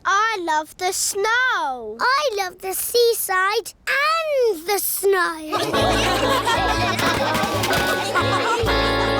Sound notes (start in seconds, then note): 5.5 laughter